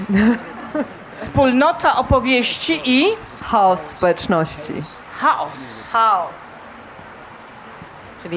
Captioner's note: śmiech